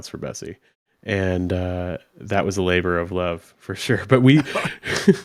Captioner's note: chuckles